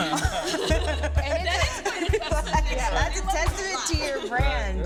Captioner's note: laughing